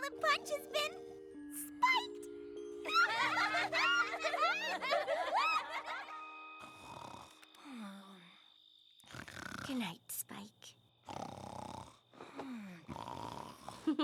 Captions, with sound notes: AND NOW THE PUNCH HAS BEEN... SPIKED! [ LAUGHTER ] [ SPIKE SNORING ] GOOD NIGHT, SPIKE. [ SNORING CONTINUES ]